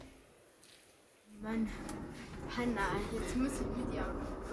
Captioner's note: quiet children's voices